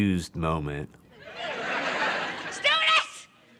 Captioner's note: audience laughter